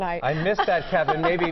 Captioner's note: laughter